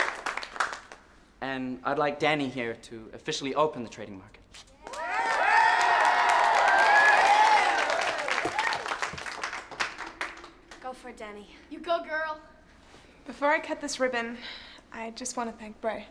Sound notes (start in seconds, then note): 4.8 cheering